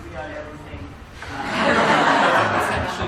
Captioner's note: laughter